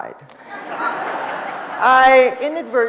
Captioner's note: audience laughing